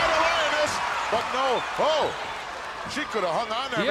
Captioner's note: applause